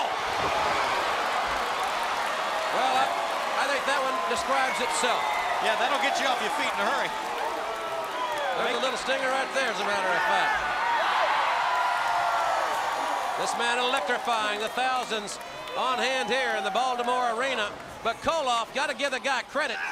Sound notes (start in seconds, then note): 11.7 crowd cheering